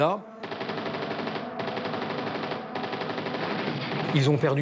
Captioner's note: guns firing